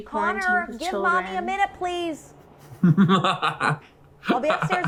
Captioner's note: laughs